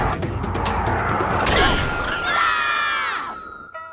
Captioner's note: screaming